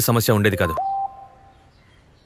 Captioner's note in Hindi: फ़ोन की घंटियाँ